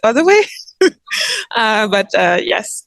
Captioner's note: laughs